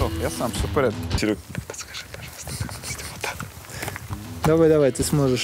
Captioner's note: whispers; cameraman suppresses a giggle